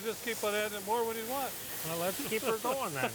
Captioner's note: laughing